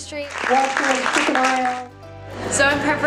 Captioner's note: audience clapping